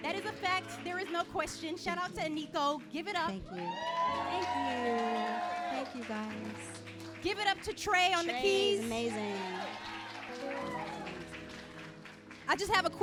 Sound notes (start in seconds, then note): 4.2 audience cheering and clapping; 9.2 audience cheering and clapping